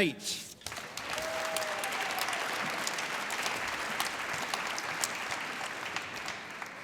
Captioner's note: applause